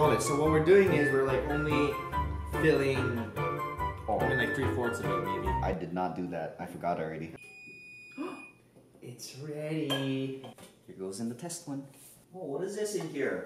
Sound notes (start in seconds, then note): 7.4 beeping